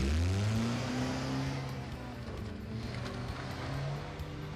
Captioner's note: engine rumbling